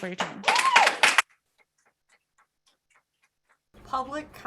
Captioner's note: applause